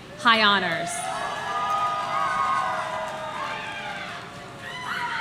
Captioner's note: audience cheering